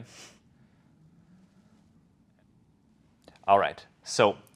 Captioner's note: laughs